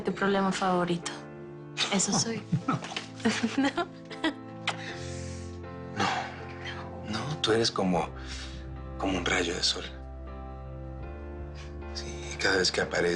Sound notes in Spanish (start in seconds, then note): 4.1 Riendo